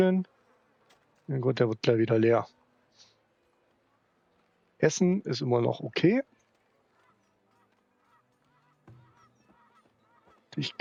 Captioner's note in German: schnauben